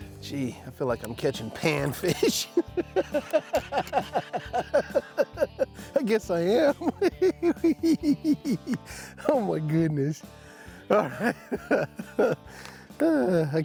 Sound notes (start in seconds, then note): 1.6 laughing; 10.9 chuckling